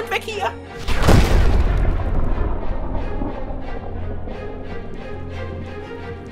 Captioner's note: explosion